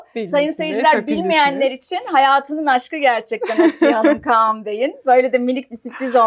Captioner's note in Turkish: kahkaha